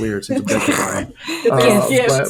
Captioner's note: chuckling